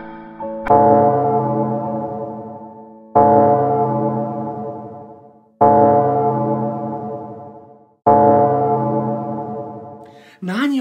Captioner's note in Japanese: 12時を告げる時の鐘の音